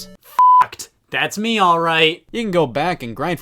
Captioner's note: beep